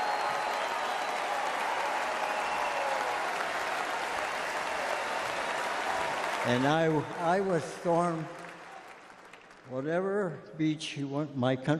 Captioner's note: applause